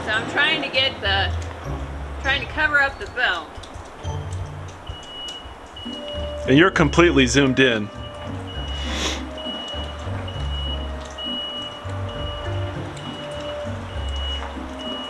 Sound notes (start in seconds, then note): 3.7 offscreen Plow Truck back up beeping loudly across the street; 8.2 Plow truck still beeping loudly; 13.9 still beeping